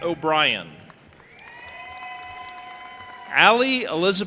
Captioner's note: audience applauding and cheering